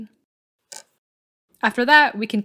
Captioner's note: click